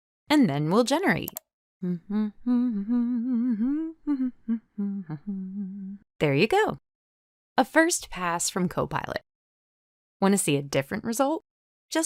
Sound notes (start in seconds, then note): 1.8 humming